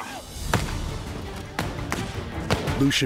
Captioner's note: gunfire